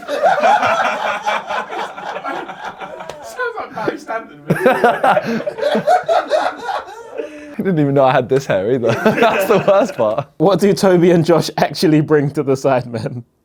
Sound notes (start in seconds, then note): 0.0 audience laughs; 0.0 laughs; 4.8 audience laughs; 4.8 laughs; 8.8 audience laughs; 8.8 laughs